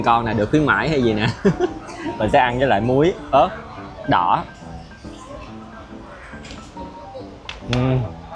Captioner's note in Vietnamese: tiếng cười